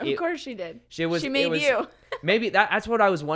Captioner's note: laughs